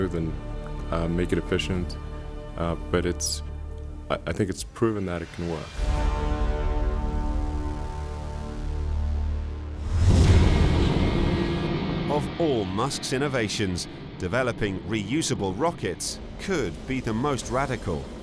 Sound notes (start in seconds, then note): 6.3 suspenseful music; 10.6 rocket engine roaring